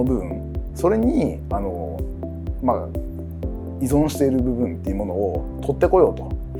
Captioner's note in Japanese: 発話